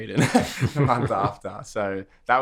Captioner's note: laughter